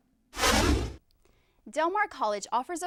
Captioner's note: deep swooshing